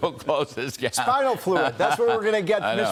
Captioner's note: laughter